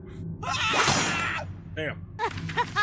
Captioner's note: man yells; Jenny laughs